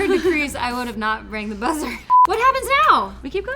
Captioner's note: beep